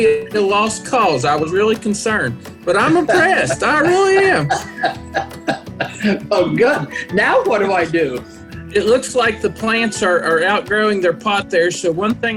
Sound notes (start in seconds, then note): 4.2 laughter